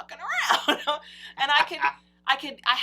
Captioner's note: laughs